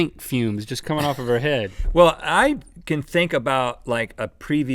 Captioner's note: laughing